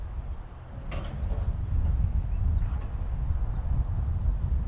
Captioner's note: metal rattling